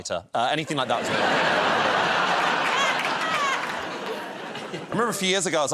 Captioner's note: laughter